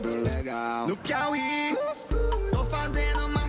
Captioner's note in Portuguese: grita